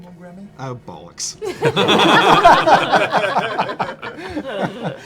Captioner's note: laughter